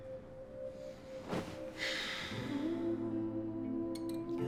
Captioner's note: sigh